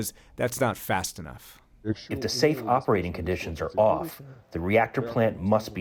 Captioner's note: through translator